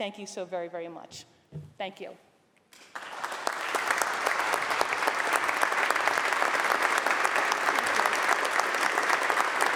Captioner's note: applause